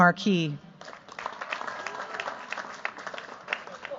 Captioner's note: cheers, applause